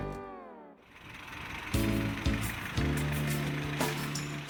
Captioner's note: engine rumbles